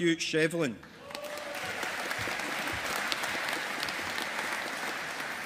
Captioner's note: audience applauding